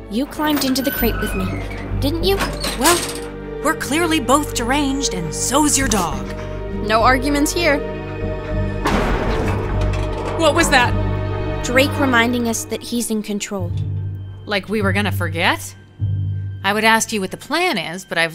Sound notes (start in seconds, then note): 8.0 door clanks